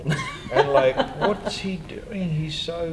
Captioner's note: laughter